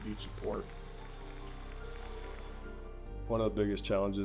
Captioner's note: fans applauding